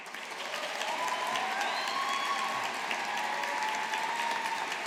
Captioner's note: audience applauding